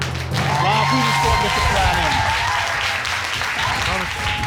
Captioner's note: audience clapping